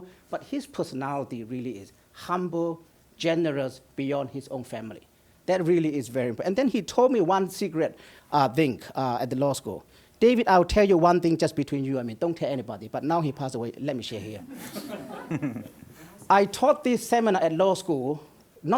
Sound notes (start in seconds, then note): 14.3 audience laughs